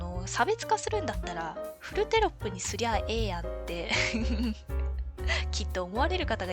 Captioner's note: laughs